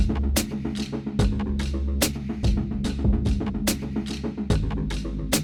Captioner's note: none